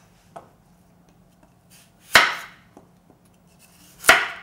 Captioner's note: knife tapping